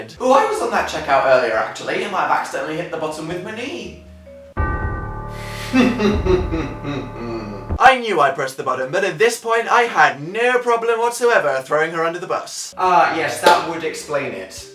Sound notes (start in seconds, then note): 4.2 dramatic chord; 5.6 laughs to himself